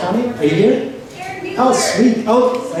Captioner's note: voiceover